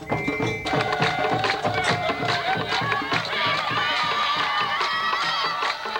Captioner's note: people clapping and cheering